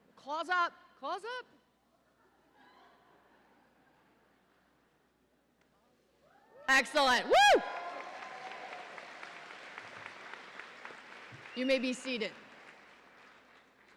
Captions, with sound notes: Claws up, claws up! Excellent. Woo! (audience cheering) You may be seated.